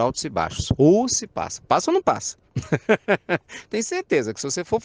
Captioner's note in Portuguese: Risos